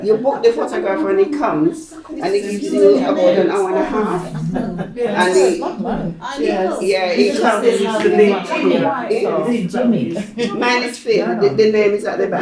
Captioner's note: people talking